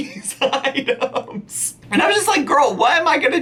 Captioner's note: laughing